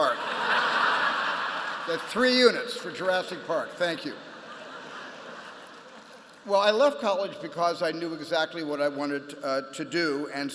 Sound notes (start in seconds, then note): 0.0 laughter; 4.4 applause